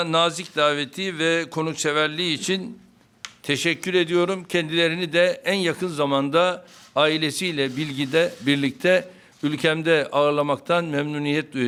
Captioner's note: speaking Turkish